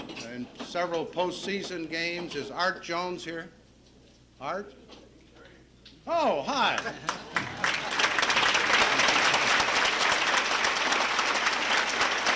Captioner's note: applause